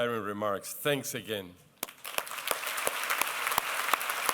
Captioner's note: applause